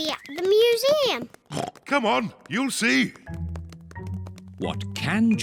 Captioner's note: oinks